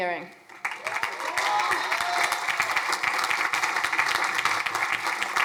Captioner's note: crowd applauding